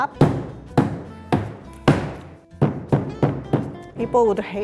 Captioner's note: rolling pin thuds